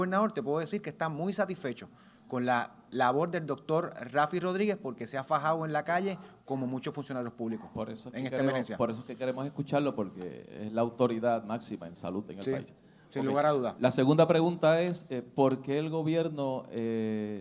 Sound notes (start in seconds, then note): 8.9 reporter speaks in foreign language